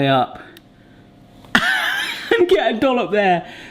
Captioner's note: laughs